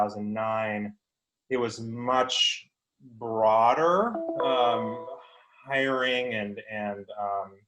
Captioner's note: electronic chime